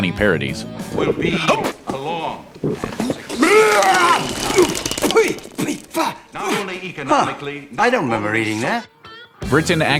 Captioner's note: vomiting